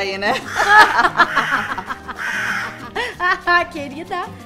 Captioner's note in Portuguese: risadas